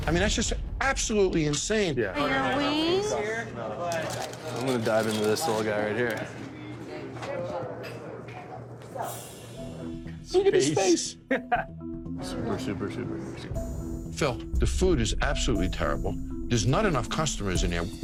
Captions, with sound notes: I mean that's just, absolutely insane. >>: Your wings. >>: I'm going to dive into this little guy right here. >>: Look at his face! (laughs) >>: Phil, the food is absolutely terrible. There's not enough customers in here.